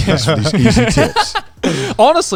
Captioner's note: laughing